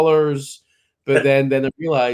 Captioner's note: laughs